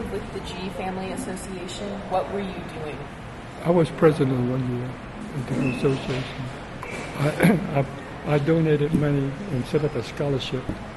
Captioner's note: clears throat